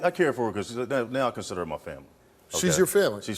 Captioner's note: none